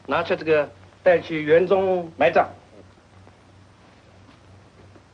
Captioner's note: speaks foreign language